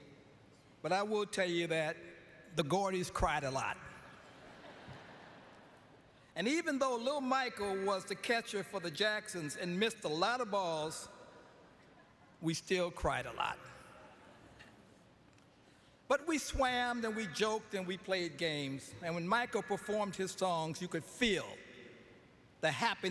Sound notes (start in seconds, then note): 12.5 lauaughghteter